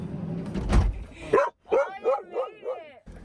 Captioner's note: dogs barking